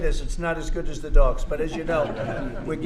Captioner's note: laughter